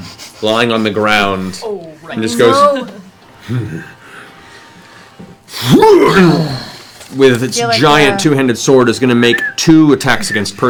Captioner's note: yells